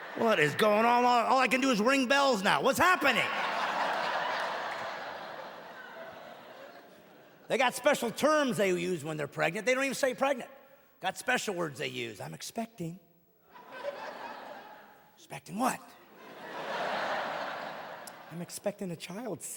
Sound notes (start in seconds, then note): 2.9 audience laughing; 6.9 audience laughing and clapping